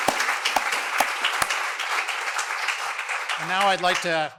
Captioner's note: applause